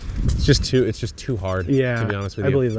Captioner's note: lemon squeaking